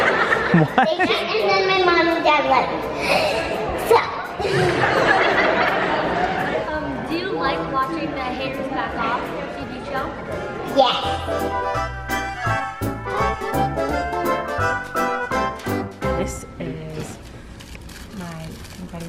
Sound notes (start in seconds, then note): 0.0 laughing; 4.3 audience laughing; 12.0 upbeat music